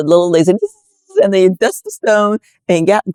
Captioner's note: buzzing